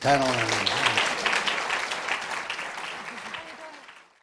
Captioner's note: audience applauds